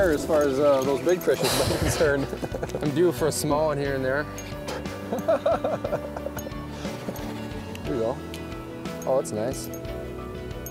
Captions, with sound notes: as far as those big fish are concerned. - I'm due for a small one here and there. (laughs) Here we go. Oh, that's nice.